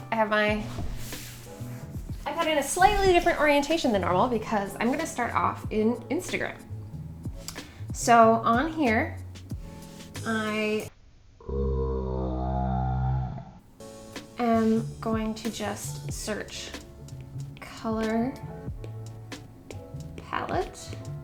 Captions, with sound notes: I've had a slightly different orientation than normal because I'm going to start off in Instagram. So, on here, I (pig grunting) am going to just search color palette.